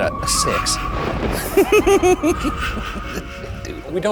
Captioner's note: laughing